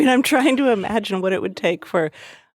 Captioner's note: laughs